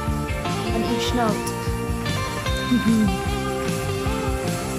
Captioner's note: chuckles; upbeat guitar music continues